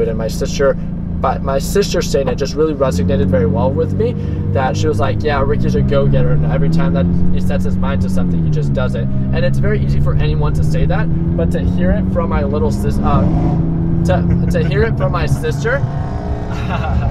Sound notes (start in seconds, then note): 13.2 other car revs; 14.2 laughing